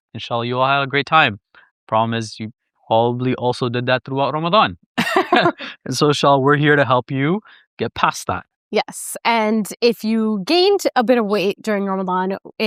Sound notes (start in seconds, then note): 5.0 laughs